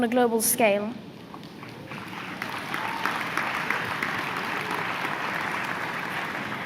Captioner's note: applause